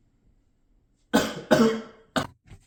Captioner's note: cough